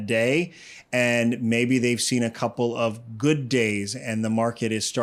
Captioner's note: inhales